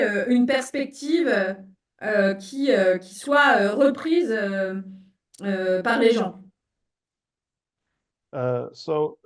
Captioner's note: speaking in French